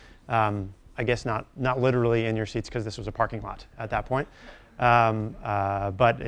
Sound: none

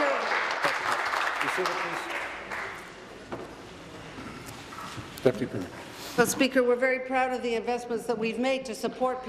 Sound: applause

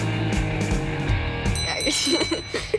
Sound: bell Sounding

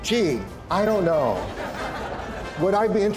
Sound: crowd laughter

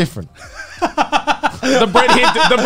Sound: laughing

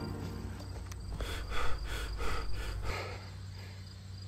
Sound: heavy breathing

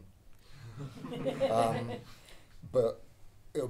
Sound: audience laughing

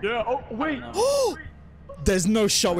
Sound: gasp

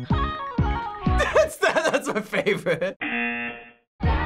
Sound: laughing; buzzer

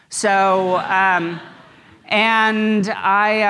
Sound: audience laughs

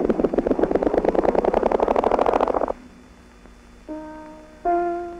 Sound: whirring tape sound

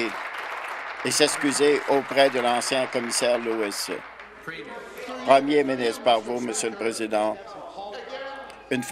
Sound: applause

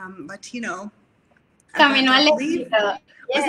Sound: speaks foreign language

